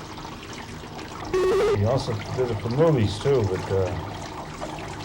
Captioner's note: buzzing/beeping